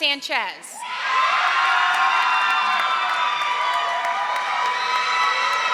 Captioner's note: audience applauding and cheering